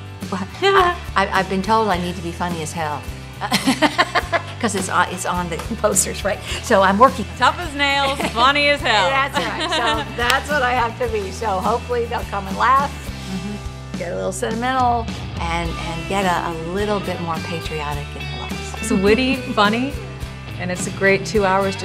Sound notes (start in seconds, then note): 0.2 laugh